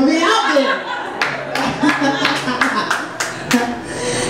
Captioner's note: laughs